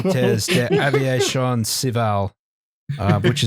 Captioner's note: laughter